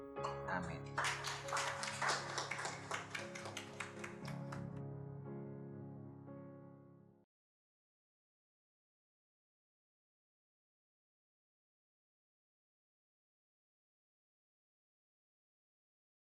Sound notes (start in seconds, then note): 2.1 applause